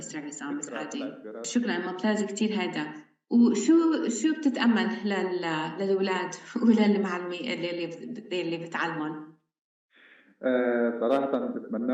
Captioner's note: speaking arabic